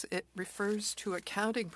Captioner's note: speaking French